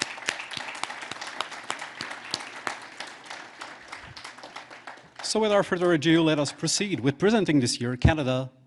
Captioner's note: applause